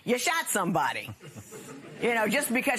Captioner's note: laughter